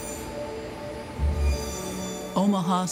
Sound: machine whirring

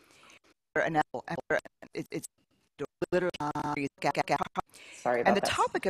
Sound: Static

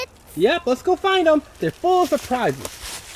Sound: voiceover

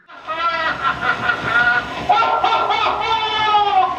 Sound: laughing

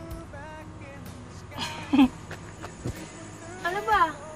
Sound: both chuckle

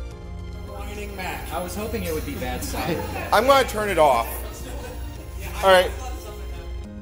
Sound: Mac make very high pitch noises

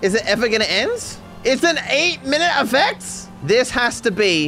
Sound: shouting

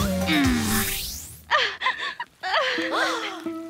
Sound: crying

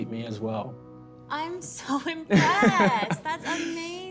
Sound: laughs

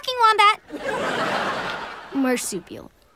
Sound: laughing

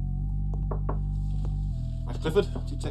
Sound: knocking at door

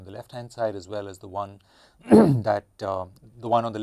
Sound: cough

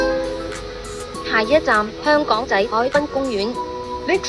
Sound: Cantonese

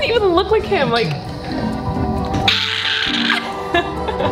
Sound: screams

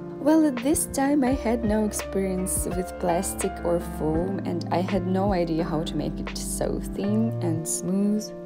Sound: none

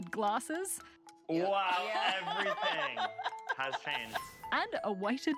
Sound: laughter

